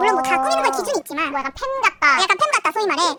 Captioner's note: laughs